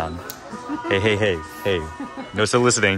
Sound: girlfriend laughs

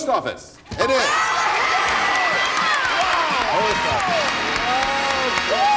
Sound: applause

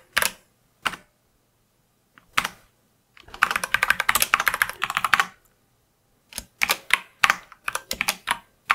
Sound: typing

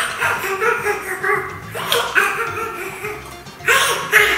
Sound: laughs

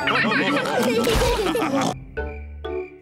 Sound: all laugh

